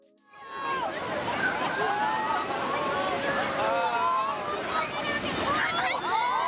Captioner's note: wave crashes; swimmers shouting; swimmers shouting and screaming